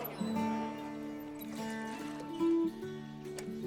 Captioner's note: people clamoring